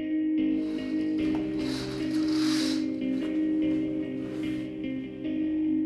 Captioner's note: sound of curtains being drawn